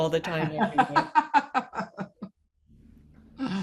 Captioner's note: laughing